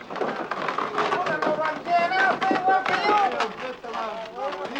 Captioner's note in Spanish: Ruido de carreta